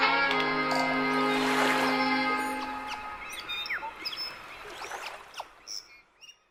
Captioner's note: birds chirping; waves crashing